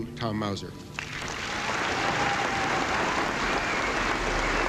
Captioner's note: applauding